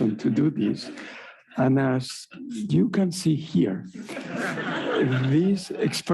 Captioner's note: audience laughing